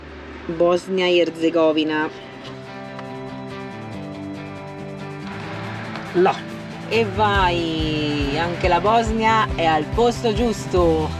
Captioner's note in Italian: Applauso